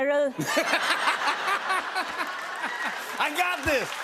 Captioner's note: laughter